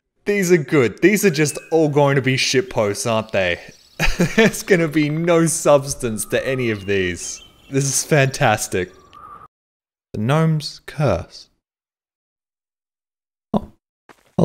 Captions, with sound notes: These are good. These are just all going to be shit posts aren't they? *laughs* There's gonna be no substance to any of these. This is fantastic. The gnomes curse. oh